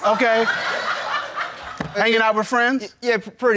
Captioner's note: crowd laughing